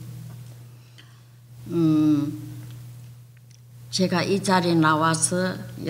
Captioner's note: speaking foreign language